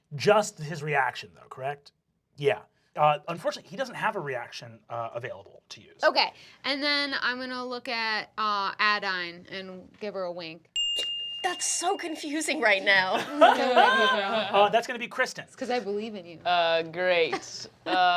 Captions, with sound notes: - Just his reaction though, correct? Yeah, unfortunately he doesn't have a reaction available to use. - Okay and then I'm gonna look at Adaine and give her a wink. (bell rings) - That's so confusing right now. (laughter) - Well, that's gonna be Kristen. - That's because I believe in you. - Ah, great.